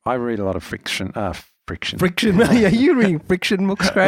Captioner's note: laughs